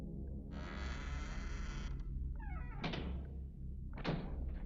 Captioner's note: door creaking